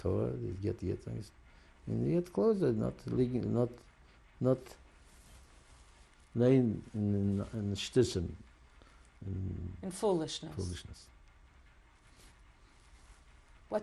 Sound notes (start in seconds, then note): 7.7 yiddish